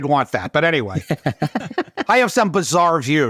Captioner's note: both chuckling